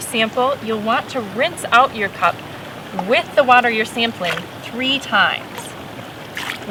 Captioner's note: splashing